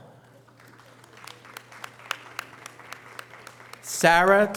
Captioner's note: audience applause